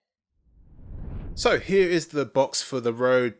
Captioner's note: air whooshing